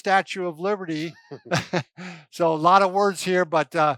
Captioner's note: laughs